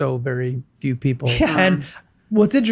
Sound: chuckles

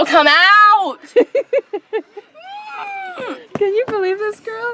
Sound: laughing

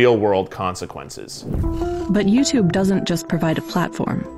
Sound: air whooshes; gentle suspenseful music

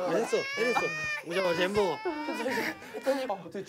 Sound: waah t.t

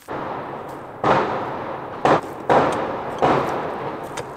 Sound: firecracker sound

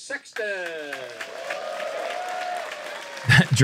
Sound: applause

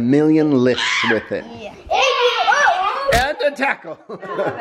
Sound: shouting

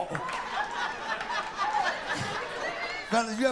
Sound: laughter

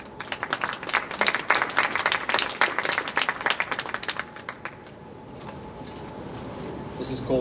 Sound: clapping

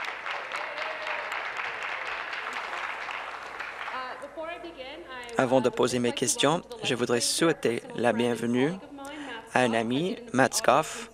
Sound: applause

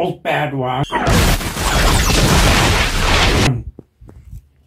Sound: big boom moment

